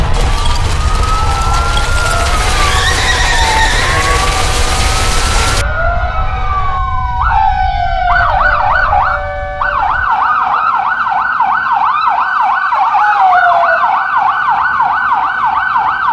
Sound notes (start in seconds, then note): 0.0 a building collapses; 6.4 sounds of emergency vehicles